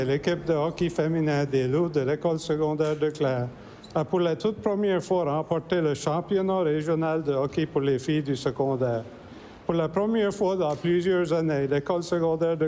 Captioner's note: speaking french